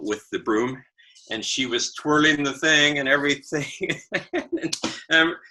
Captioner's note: laughing